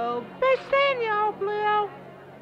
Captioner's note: crowd murmuring